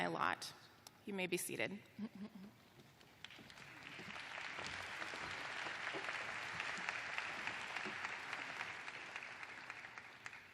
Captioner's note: applause